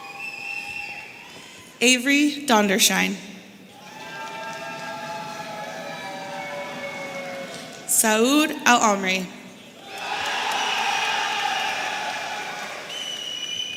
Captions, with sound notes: Avery Dondershine. Saud Alamri. (audience cheering)